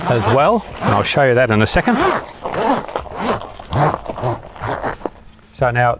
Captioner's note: zipper gliding